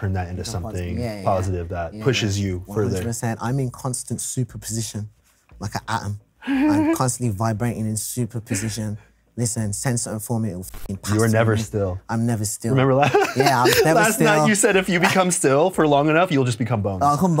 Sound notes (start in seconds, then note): 12.8 laughs